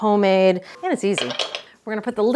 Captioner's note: spoon thumping